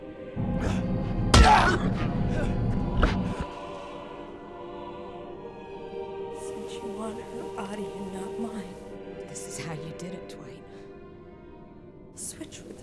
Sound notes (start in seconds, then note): 1.4 grunting